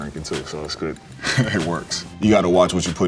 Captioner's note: chuckles